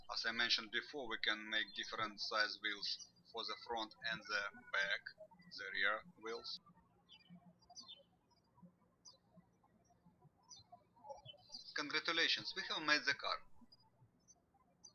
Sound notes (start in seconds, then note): 8.2 birds chirping